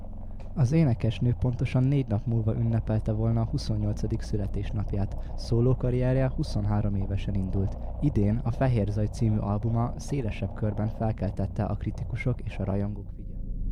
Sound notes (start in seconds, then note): 9.9 white noise